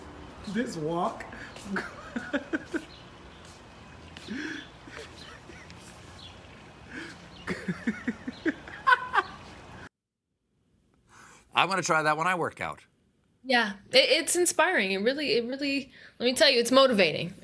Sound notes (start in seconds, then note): 7.4 laughter